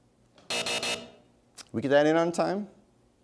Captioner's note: buzzer sounds